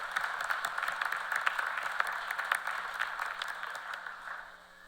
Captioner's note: applause